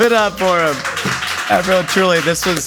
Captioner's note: crew applauding; crew cheering